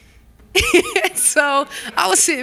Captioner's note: laughter